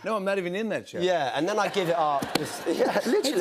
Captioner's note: laughter